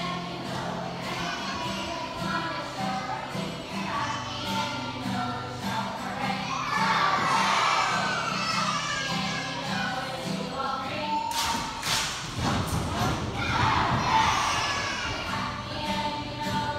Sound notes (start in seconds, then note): 11.3 clapping; 11.8 stomping